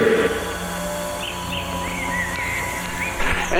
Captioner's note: birds chirping